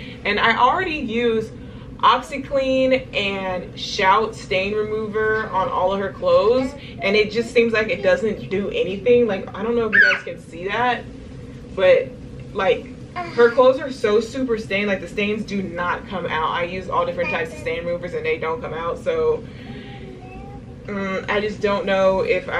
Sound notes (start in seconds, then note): 9.9 squeals